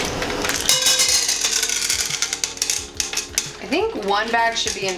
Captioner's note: Skittle clattering